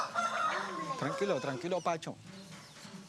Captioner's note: Spanish spoken audio